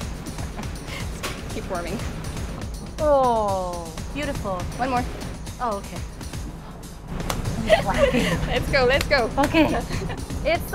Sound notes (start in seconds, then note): 0.2 laughs; 7.5 laughing; 9.3 clapping